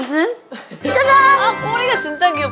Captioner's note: ta-da